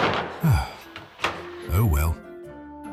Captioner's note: sigh